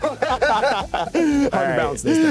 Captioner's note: both laughing